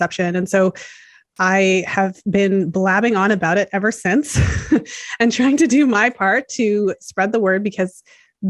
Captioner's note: laughs